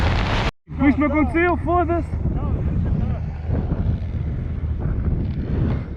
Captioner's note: speaking in foreign language